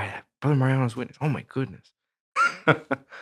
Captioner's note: laughs